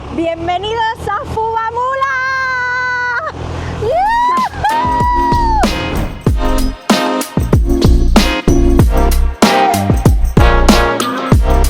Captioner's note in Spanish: grito